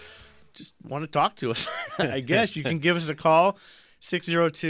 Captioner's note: both laugh